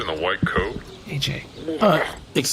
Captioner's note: gags